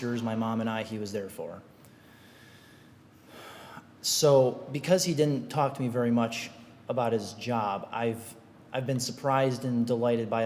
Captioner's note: sigh